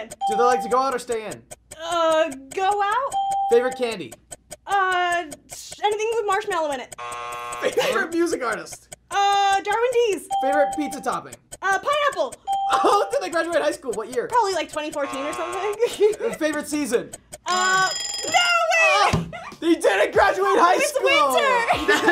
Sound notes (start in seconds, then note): 3.1 ding; 6.8 buzzer; 12.4 ding; 14.8 buzzer; 16.9 timer rings